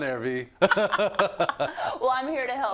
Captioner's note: laugh